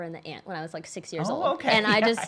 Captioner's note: chuckles